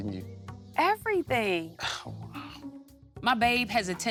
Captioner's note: sighing